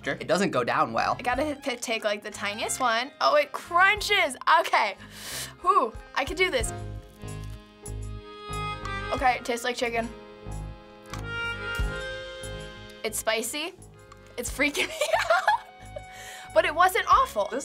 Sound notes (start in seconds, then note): 5.0 inhaling; 14.7 laughing